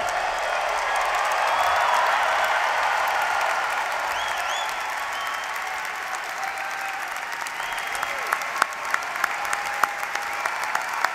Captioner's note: applause